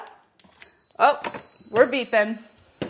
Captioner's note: refrigerator beeping